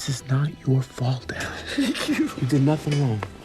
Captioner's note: sobbing